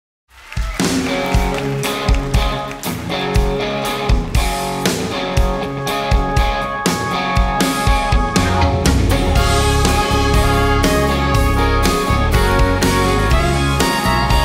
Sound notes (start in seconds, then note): 0.3 audience applauding; 0.9 country band playing